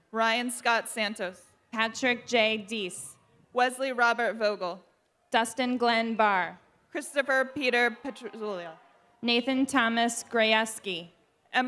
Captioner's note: applause